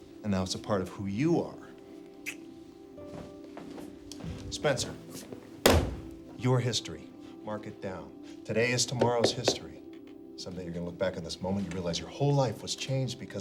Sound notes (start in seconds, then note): 3.3 clicks tongue; 5.6 hand slaps